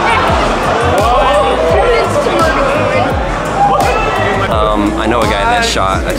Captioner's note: crowd chattering